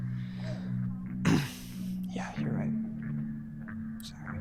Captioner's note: clears throat